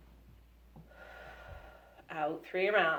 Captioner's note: breaths in; breaths out